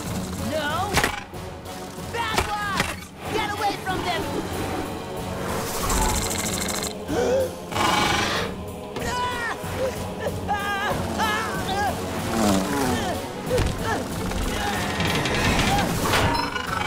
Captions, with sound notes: No, bad wasp! Get away from them! [buzzing] [gasps] [roaring] [screaming] [grunting]